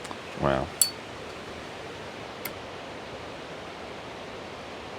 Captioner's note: lighter clinks